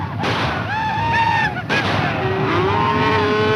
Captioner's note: cheering